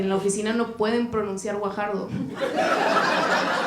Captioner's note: Risas